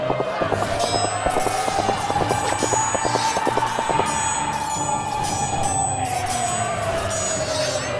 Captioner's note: battle sounds